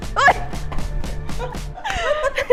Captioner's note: giggles